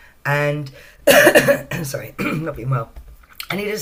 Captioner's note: coughs